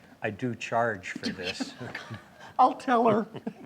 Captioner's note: chuckles